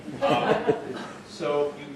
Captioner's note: group laughing